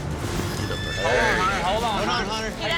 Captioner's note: horse whinnies